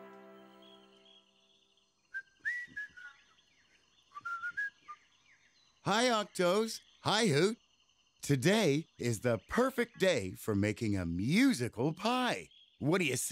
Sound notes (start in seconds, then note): 1.5 birds chirping; 4.1 whistling